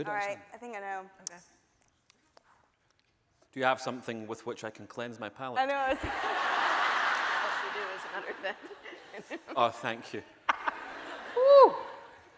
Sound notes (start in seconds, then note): 6.0 audience laughing; 8.0 voice muffled; 11.2 laughing